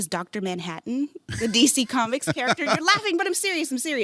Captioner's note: laughing